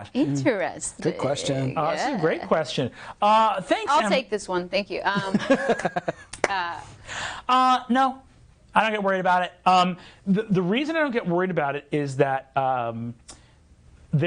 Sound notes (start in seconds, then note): 5.2 laughing